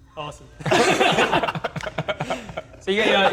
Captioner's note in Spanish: Risas